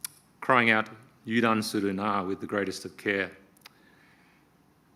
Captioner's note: speaking Japanese